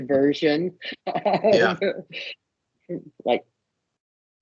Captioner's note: laughing